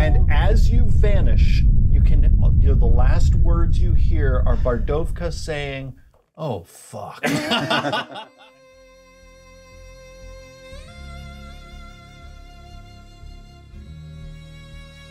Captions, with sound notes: - And as you vanish, the last words you hear are Bardovka saying, "Oh, fuck!" (co-hosts laughing) (calm music)